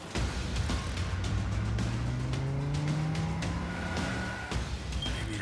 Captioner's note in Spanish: ruido del motor